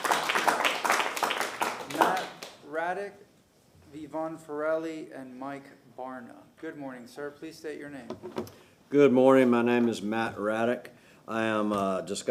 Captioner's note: applause